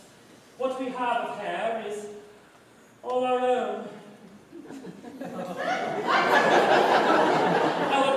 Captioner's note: laughter